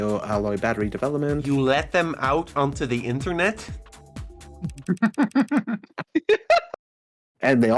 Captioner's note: laughter